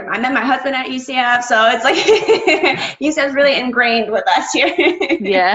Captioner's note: laughs; laughs